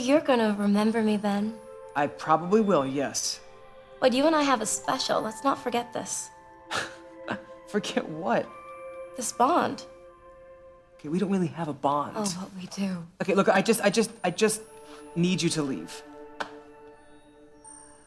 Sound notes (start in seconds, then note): 6.6 scoffs; 16.5 eerie music